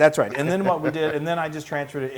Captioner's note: laugh